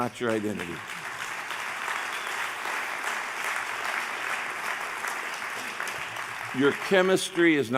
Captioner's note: applause